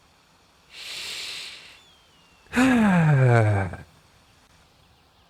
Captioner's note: deep sigh